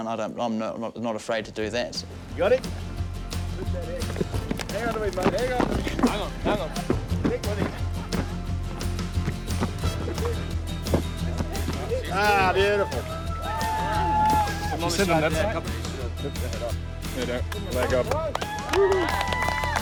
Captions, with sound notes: I'm not afraid to do that. -Got it? -Hang on! -Ah! Beautiful! [Cheering] -Let go [Clapping]